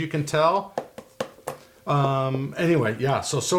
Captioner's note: knocking